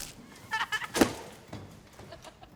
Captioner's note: kids laughing